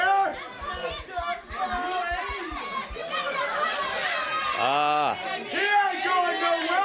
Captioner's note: crowd chatter